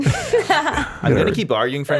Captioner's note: all laughing